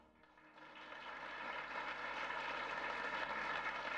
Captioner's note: applause